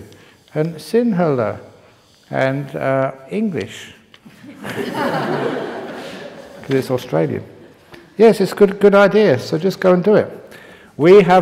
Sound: laughter

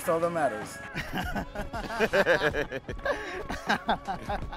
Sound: laughing

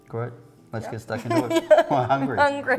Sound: laughing

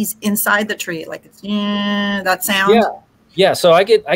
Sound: mimics bees buzzing

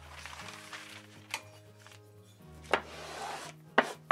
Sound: paper crinkles; metal slides and clunks

